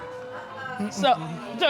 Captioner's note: audience groans